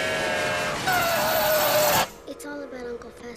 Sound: Fester screams

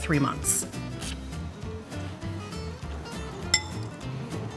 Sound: slurping

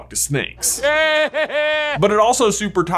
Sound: Voldemort laughing

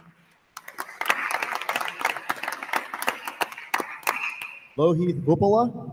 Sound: attendees applauding

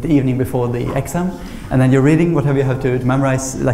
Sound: none

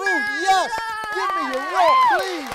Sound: cheering

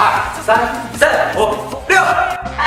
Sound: shouting around

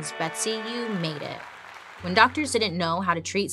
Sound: audience applauds

